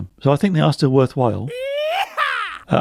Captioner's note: prospector whoops